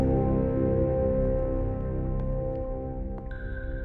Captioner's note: footsteps